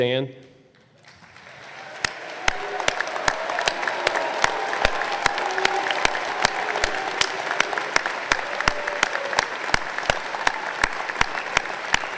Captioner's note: applause